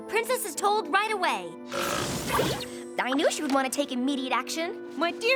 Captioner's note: gulps